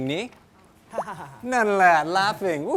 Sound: laughing sound

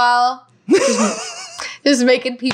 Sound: laughing

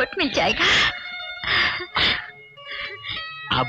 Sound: chuckling

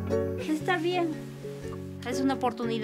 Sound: Spanish

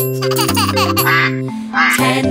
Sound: duck quacks; giggles; duck quacks

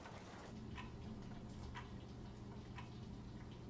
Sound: clock ticking

